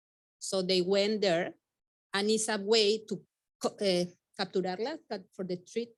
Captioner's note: speaking Spanish